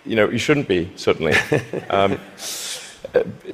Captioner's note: laughter